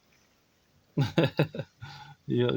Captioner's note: laughs